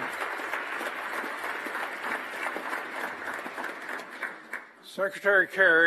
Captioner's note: applause